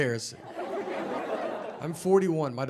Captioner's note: audience laughing